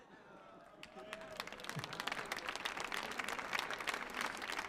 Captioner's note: audience applauding